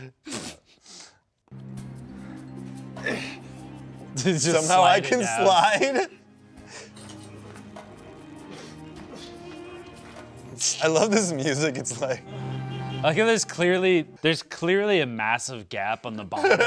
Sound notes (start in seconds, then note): 0.0 laughs; 3.1 grunts; 6.1 dramatic music